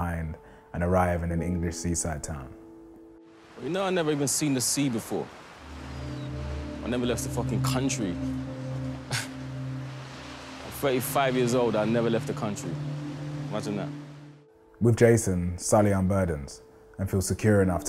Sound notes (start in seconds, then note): 8.8 scoffs